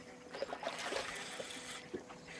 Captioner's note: splashing